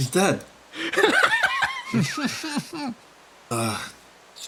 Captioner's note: laughs